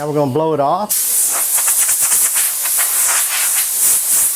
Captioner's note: air hissing